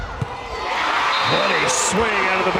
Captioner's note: crowd and players cheering